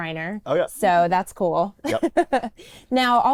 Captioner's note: laughs